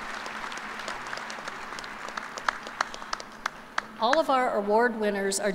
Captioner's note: applause